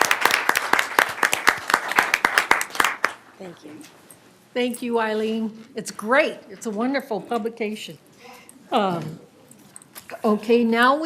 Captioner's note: applause